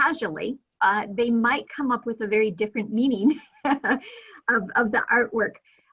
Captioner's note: chuckling